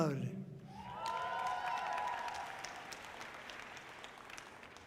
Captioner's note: audience cheering loudly